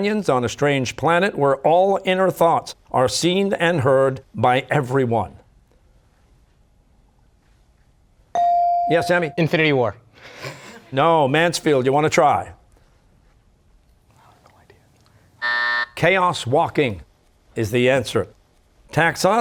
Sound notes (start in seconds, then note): 10.3 laughs; 15.4 buzzer